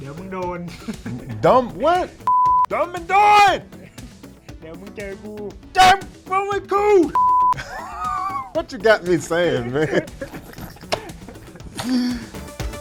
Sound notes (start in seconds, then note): 0.2 speaking in Thai; 0.7 Petchpanomrung laughing; 2.2 high pitched beep; 3.7 Petchpanomrung laughing; 4.7 Petchpanomrung speaking in Thai; 7.1 high pitched beep; 7.5 Petchpanomrung and Spice laughing; 12.5 upbeat music